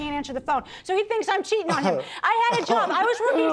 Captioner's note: scoffs